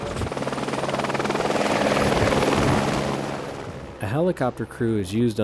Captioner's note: helicopter whirring